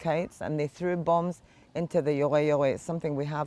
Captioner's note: hebrew